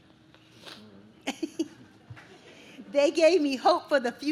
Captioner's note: giggles